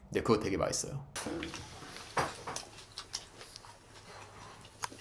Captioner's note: chomping down